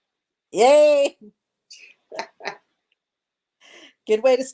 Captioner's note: laughs